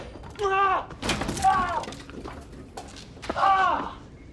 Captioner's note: shouting